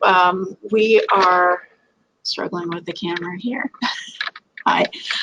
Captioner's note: laughs